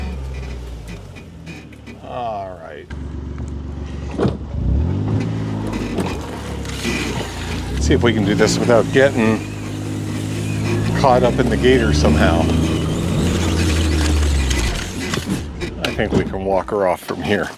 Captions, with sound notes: All right. Let's see if we can do this without getting caught up in the gator somehow. (machinery rumbling) I think we can walk her off from here.